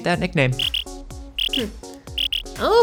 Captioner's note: chirping